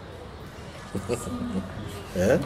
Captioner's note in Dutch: lacht